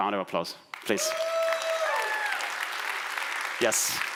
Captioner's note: applause